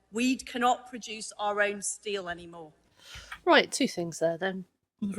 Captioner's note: none